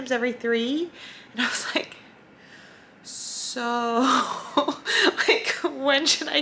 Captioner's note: laughs